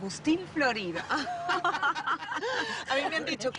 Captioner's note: Risas